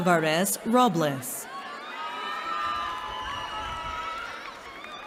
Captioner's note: cheering